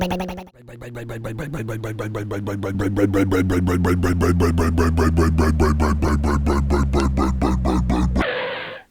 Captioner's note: motor slowdown; skid